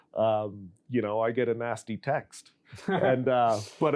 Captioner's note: laughs